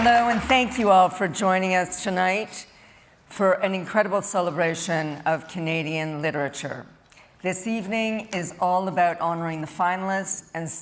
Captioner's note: cheering and Applause